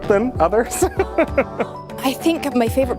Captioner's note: laughs